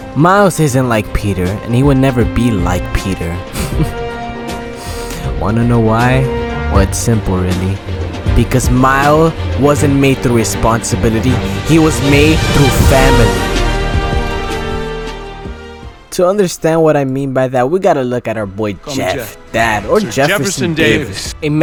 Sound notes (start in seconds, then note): 4.7 breathe in